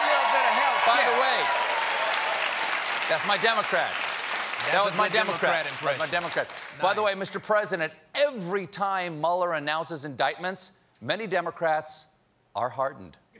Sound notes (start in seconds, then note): 3.7 applause